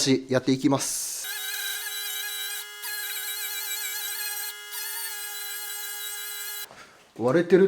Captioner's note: working sound